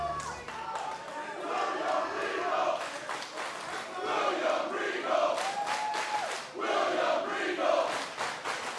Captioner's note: fans chanting